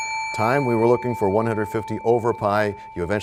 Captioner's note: bell rings, time expires